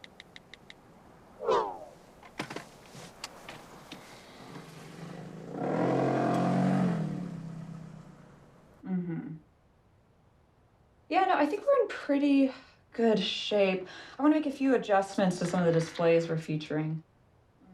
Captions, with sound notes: (onscreen keyboard clicks) (car engine revs) - Mm-hm. Yeah, no, I think we're in pretty good shape. I wanna make a few adjustments to some of the displays we're featuring.